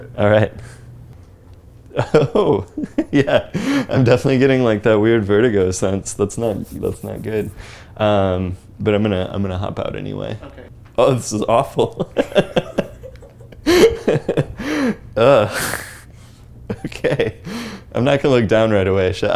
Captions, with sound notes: All right. Oh! Yeah! I'm definitely getting like that weird vertigo sense. That's not-- that's not good. But I'm going to hop out anyway. Oh, this is awful. [LAUGHS HYSTERICALLY] OK. I'm not going to look down right away.